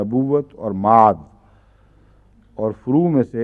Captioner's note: Arabic